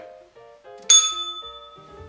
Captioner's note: bell rings